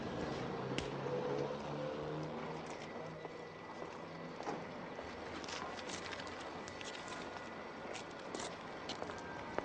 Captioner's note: distant crowd chatter